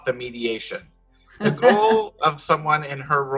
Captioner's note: chuckles